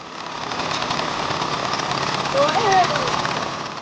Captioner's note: non-english